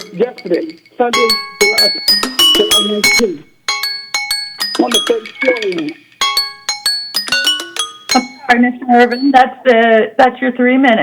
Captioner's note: bell ringing